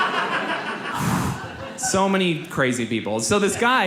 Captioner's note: audience laughs; exhales loudly